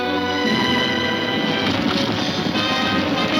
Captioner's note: horses hooves thundering; gunfire popping